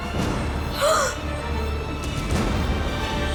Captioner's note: gasps